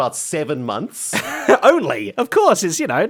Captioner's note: laughs